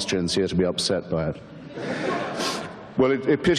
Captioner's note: audience laughter